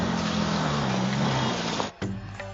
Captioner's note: motors rumble